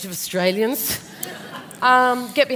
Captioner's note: laughter